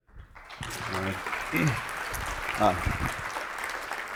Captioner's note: audience applauds